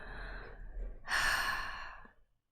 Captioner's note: sighs